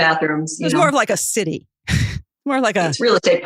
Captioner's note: guffaw